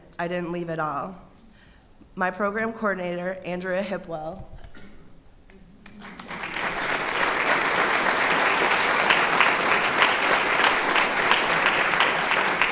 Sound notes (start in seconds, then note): 5.8 applause